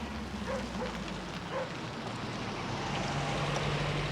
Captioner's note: dog barking